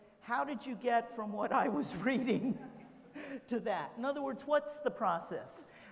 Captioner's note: laughs